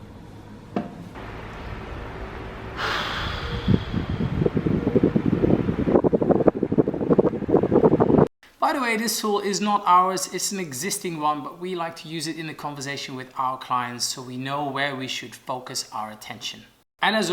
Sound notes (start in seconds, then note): 2.7 exhales loudly; 5.6 whooshing